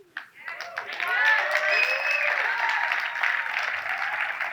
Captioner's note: audience cheers